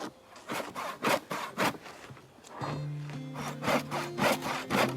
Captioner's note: wood crunching